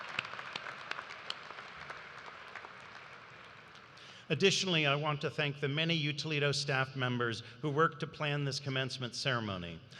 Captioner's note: cheers and applause